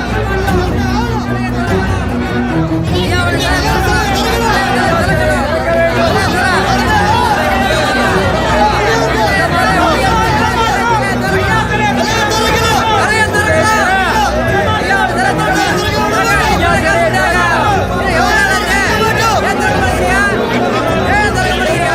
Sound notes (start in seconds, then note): 0.5 loud voices in protest; 6.9 commotion